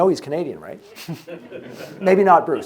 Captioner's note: audience members chuckling